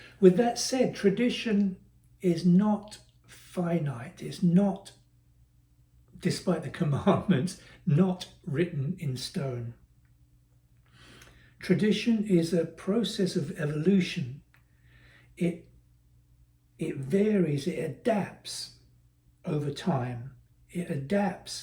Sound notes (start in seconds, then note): 6.8 laugh